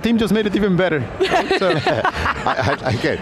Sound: laughs

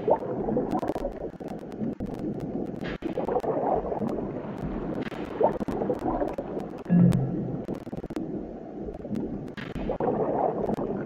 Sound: sound of submarine

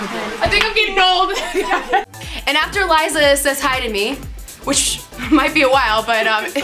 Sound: laughs

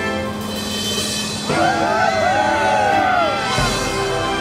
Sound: cheering

